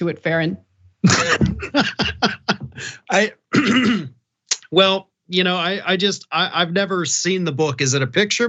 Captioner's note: laugh; cough